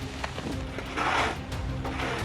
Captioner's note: wind wooshing; shovel scraping